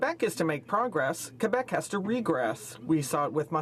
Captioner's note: speaking French